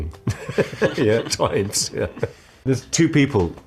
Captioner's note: laughs